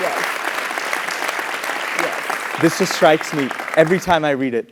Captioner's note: applause